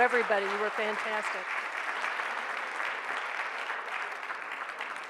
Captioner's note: audience applauds